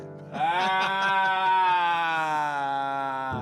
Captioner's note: both laughing